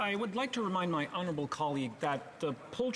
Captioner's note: speaking French